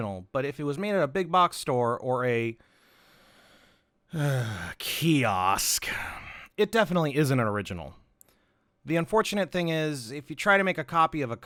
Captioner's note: sigh